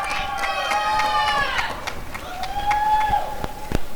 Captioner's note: applause and cheering